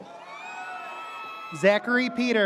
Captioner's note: audience cheers